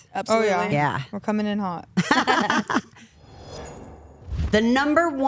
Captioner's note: Stephanie and Elyse laugh